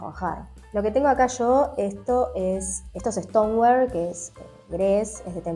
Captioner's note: in Spanish